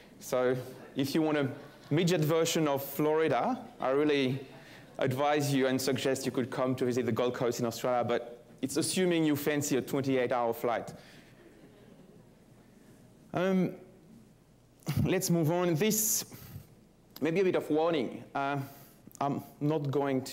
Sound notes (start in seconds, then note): 11.4 laughter